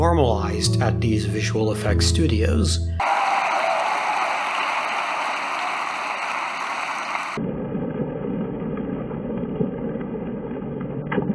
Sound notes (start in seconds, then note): 3.0 distorted laughter and applause; 3.0 laughter and applause